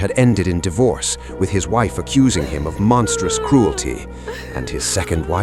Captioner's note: woman crying